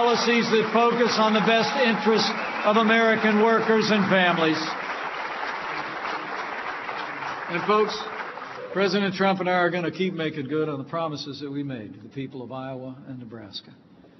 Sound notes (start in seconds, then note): 4.6 applause